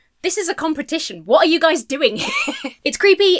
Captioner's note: laughs